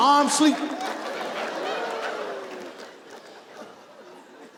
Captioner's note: audience laughs